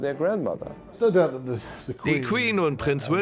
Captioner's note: voiceover